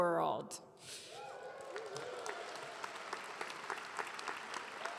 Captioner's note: audience clapping